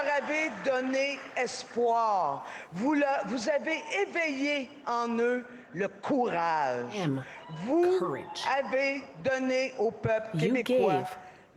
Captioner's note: speaking French